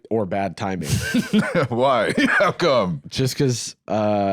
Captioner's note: laughs